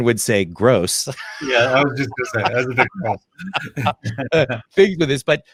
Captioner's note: both laughing